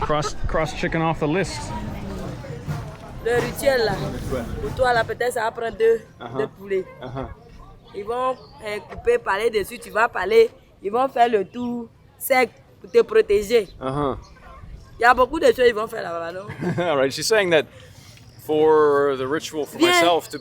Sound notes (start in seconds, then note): 3.4 speaking foreign language